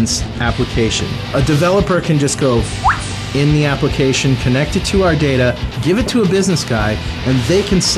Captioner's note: whistle